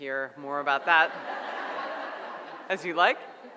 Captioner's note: audience laughs